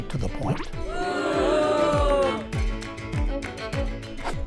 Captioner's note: people groan